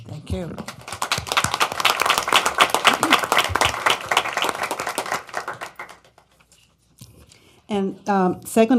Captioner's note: applause